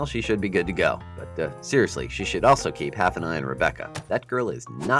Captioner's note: egg hits a door